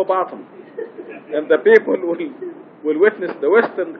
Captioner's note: gülüşmeler